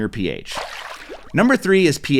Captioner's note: water splashing